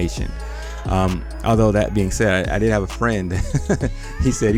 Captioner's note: laughs